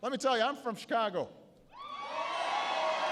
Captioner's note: applause